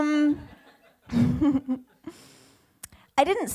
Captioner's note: laughs